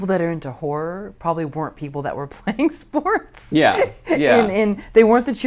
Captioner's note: laughs